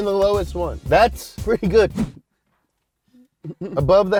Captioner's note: laughs